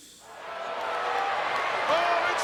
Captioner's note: crowd cheers